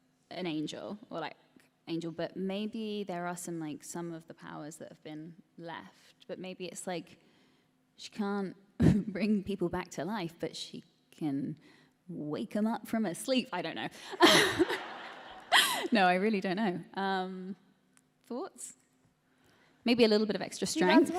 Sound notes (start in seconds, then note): 14.2 laughter